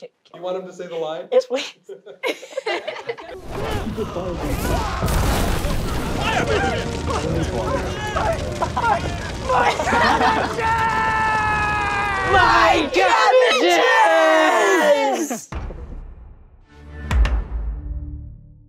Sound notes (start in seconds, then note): 1.8 both laughing